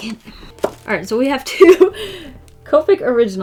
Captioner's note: laughs